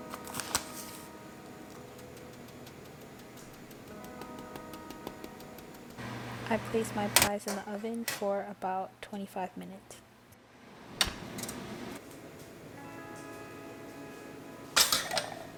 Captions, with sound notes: [sound of patting down sugar] I placed my pies in the oven for about 25 minutes.